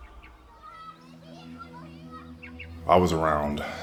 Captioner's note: children playing; birds chirping